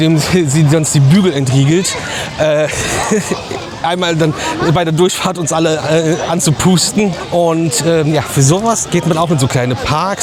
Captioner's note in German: gelächter